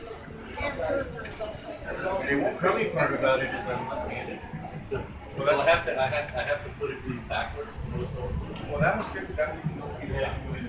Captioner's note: background conversations